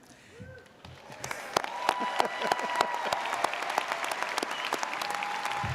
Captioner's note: audience applauding